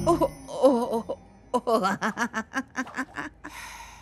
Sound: laughing

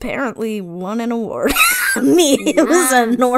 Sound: laughs

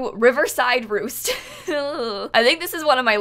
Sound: laughter that evolves into an "eww"

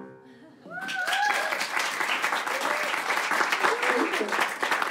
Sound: applause

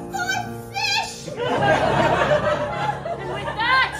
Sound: laughter

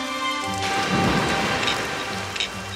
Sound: loud splash

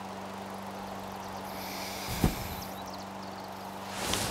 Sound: birds chirp outside

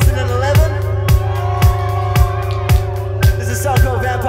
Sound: audience cheers

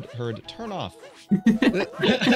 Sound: laughs; chuckles; giggles

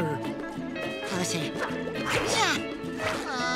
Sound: grunting; groaning

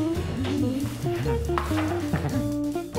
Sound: giggles

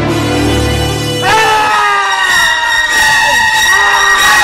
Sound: screams

